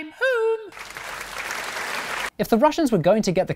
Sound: applause

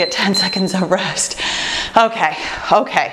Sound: timer beeps

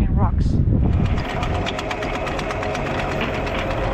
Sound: anchor whirring

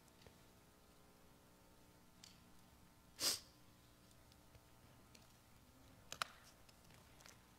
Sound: sniffles

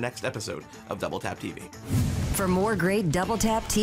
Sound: air whooshing

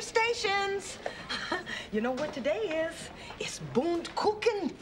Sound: chuckling

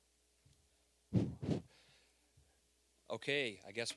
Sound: blowing into mic

